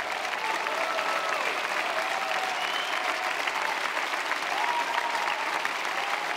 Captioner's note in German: Jubel, Applaus